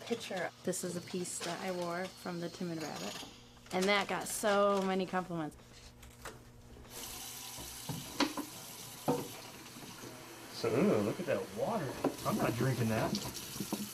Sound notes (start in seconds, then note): none